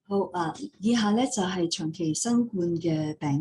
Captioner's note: non-english speech